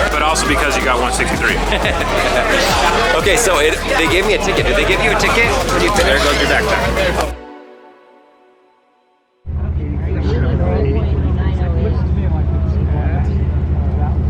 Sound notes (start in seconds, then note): 0.0 laughs; 9.6 crowd chattering